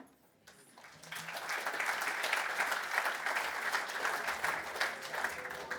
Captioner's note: audience applause